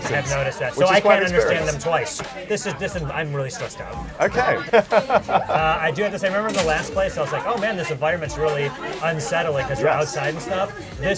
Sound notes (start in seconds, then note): 4.2 laughs